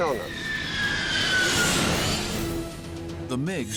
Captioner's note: engines screeching